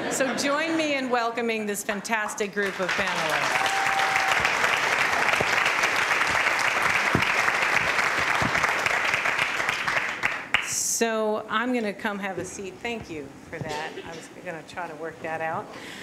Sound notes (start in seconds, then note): 2.6 applause